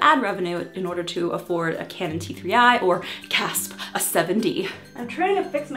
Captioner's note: gasp